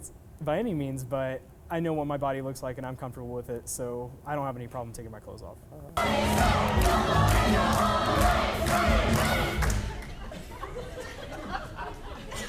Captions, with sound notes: by any means, but I know what my body looks like and I'm comfortable with it, so I don't have any problem taking my clothes off. (cheering and chanting)